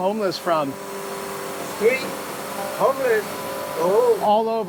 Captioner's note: vacuum continues